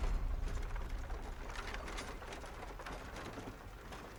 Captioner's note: townsfolk bustling